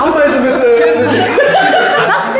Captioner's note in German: Gelächter